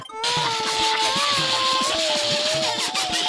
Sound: laughing

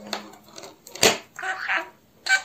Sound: a sound of falling pen

